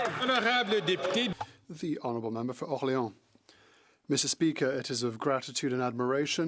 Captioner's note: some Applause